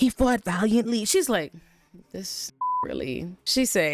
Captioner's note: beep